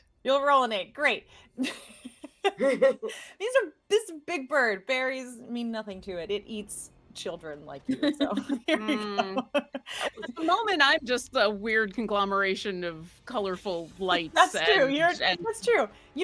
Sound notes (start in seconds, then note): 2.2 laughing; 8.0 laughing